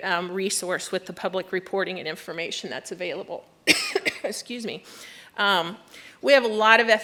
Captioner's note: coughs